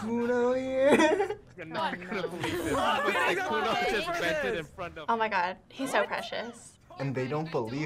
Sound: players exclaiming

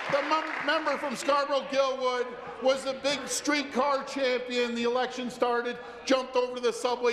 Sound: applause

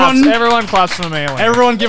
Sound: clapping

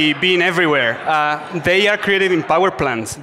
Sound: audience laughs

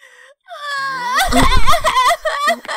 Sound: cries

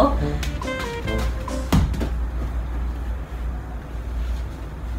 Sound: thud

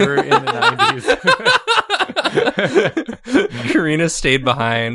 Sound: roar with laughter

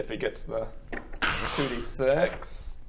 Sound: crrrussccsh

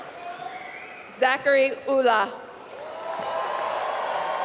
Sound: applause

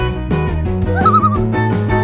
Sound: loon call

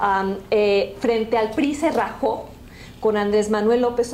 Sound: speaking spanish

